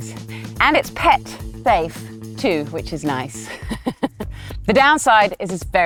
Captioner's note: laughs